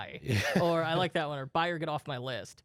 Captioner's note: laughs